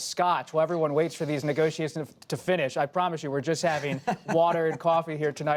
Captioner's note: laughter